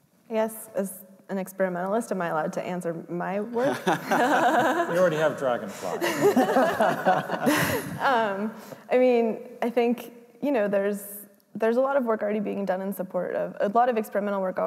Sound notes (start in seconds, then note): 3.6 laughs